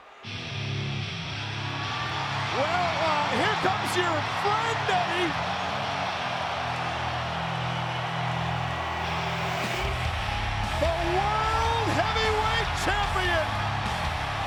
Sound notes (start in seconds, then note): 0.3 upbeat rock music; 2.1 crowd cheering; 6.2 crowd cheering continues